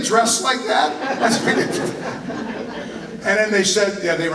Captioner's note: laughter